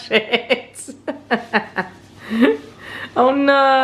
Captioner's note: person laughing